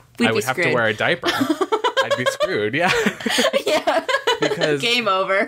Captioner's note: laughter